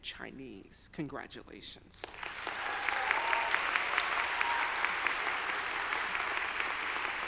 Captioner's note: audience applauding